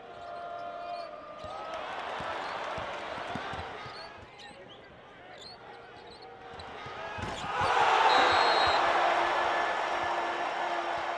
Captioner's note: cheering